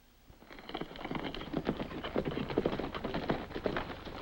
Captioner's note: hooves clop